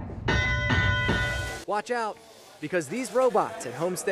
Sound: horns

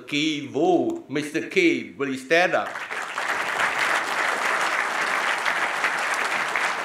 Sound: audience applauding

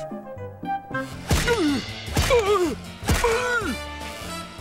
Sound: grunting

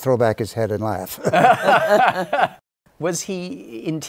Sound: laughter

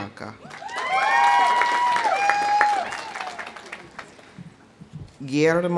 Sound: audience cheering; audience applauding

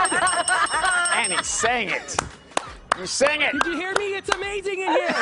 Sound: laughing

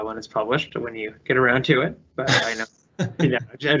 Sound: laughing

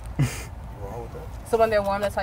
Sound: laughs

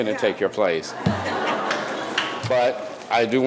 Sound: audience laughing

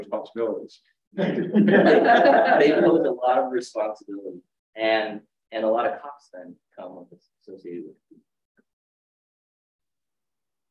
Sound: laughs

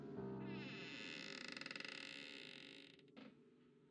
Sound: creaking

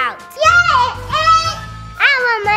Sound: Parker yells

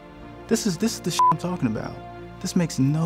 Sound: beep

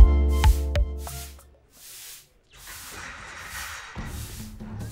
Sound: sweeping

